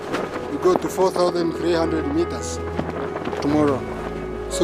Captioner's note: none